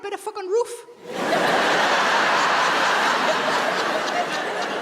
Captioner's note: audience laughs